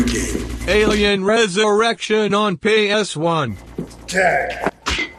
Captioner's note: synth voice